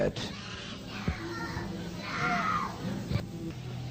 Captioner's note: crying children